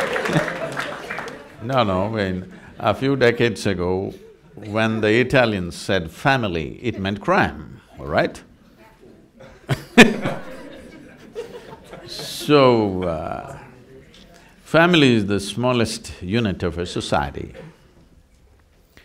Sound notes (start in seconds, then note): 0.0 laughter/Applause; 9.4 laughs